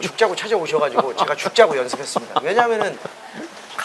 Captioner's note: laugh